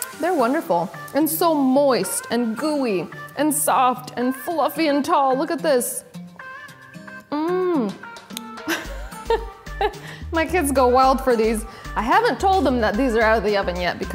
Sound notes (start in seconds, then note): 8.6 giggling